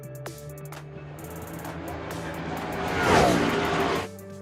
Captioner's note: engine roaring